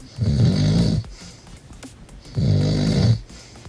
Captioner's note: snoring